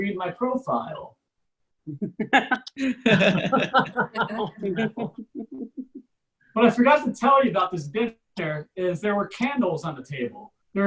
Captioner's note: audience Laughs